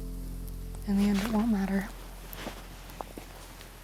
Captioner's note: sighs